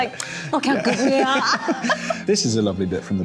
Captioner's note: laughing